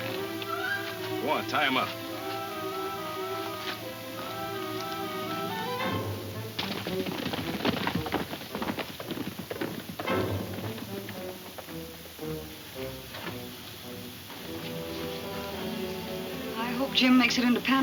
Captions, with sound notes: Go on. Tie him up. (hooves thudding) (suspenseful music) - I hope Jim makes it into Panamint all right.